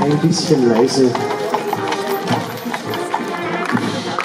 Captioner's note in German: Hufgeklapper; Applaus